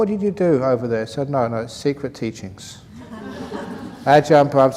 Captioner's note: laughs